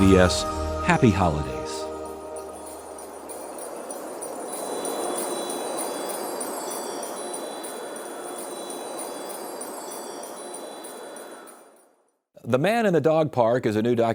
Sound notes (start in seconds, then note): 2.3 bells chiming; 2.3 wind blowing